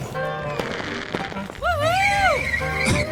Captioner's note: fireworks popping; tires squealing